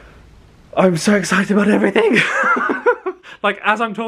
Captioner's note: laughs